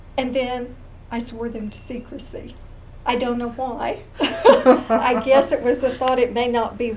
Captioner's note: laughter